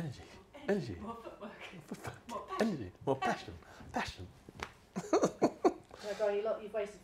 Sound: giggling

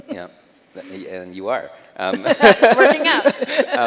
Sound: chuckles; chuckles

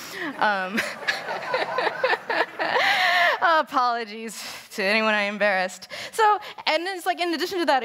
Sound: laughter

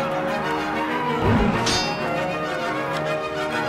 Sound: wooshing

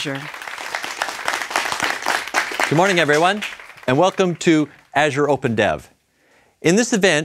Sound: applause

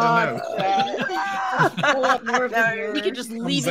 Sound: group laughing

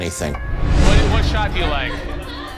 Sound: air whooshing

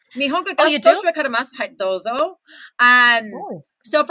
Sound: Japanese spoken

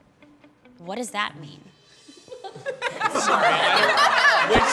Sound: cast start giggling

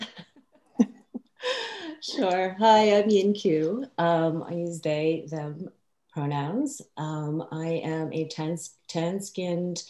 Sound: laughs

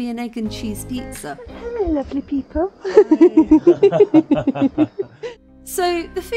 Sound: laughing

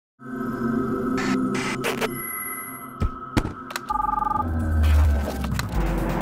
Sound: digital Sounds; high Energy Music

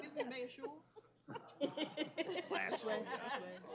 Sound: laughter

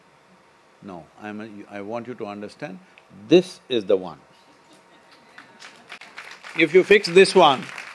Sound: applause

